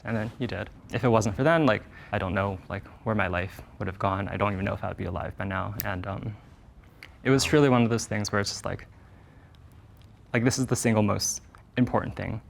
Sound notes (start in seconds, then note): none